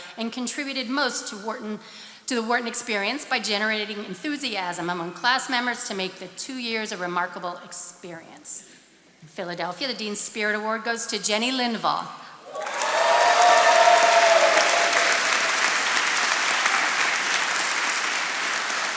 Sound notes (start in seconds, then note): 12.4 attendees cheering and applauding